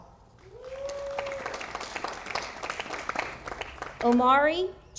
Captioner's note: audience applauding